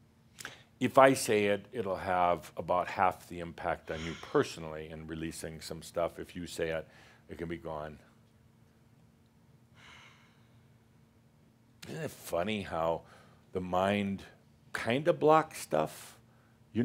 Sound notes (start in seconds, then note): 9.1 she sighs